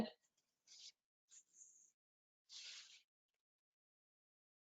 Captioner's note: slight scratching